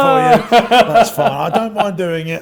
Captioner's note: laughs